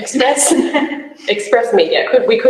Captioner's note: laughs